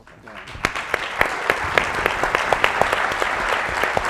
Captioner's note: applauding